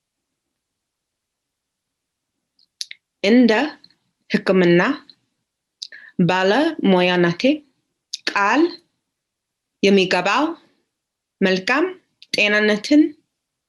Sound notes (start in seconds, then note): 3.3 speaks in foreign language